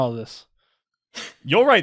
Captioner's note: laughs